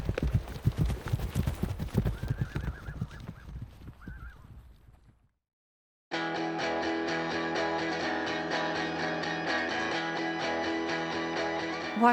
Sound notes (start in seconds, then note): 1.6 horses galloping and neighing; 8.7 upbeat music